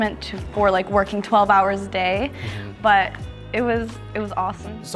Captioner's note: none